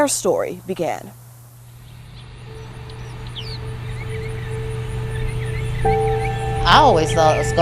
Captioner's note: birds chirping